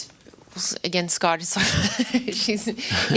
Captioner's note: laughs